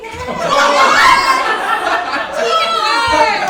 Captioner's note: audience laughs